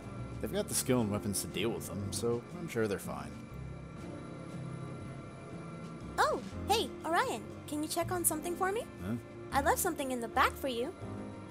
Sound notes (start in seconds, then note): none